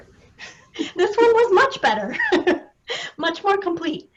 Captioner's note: both chuckling